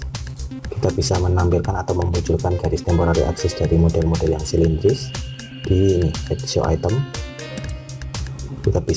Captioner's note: click